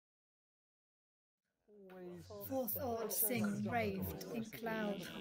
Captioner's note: indistinct babble, many voices